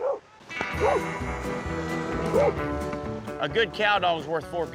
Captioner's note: dog barking